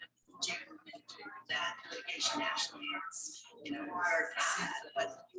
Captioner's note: people chattering indistinctly